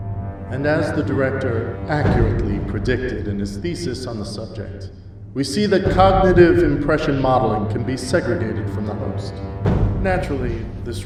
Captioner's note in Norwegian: Voice over